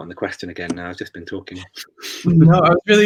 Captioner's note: laughs